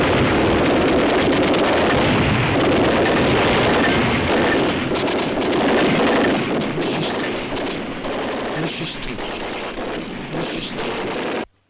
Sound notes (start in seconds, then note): 3.0 machine Gun Fire Continues; 3.0 murmuring